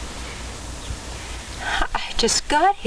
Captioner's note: birds chirping